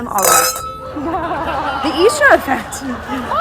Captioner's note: clinks glasses